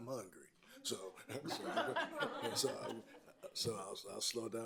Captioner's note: everyone laughing